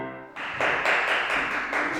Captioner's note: clapping